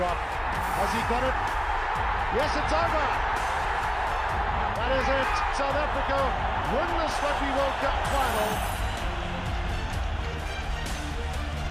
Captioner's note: cheers; cheers and music